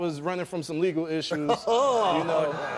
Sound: Steve laughs; audience groans

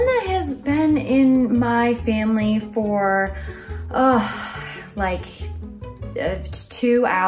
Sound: sighs

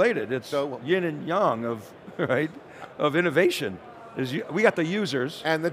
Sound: chuckles

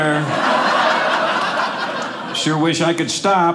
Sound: audience laughing

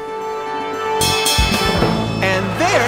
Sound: bell rings

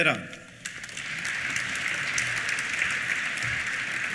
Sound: applause

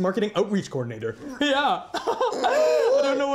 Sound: laughs

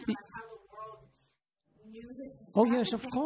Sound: laughing

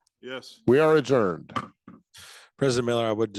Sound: gavel thudding

